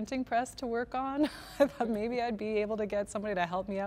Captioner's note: laughter